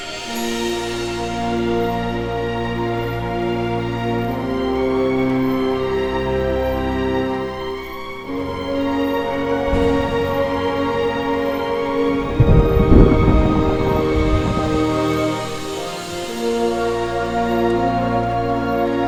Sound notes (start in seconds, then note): 9.5 thunder crashing; 14.9 dramatic music